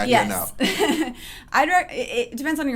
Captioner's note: laughs